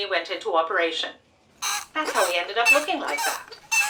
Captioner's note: squeak, squeak, squeak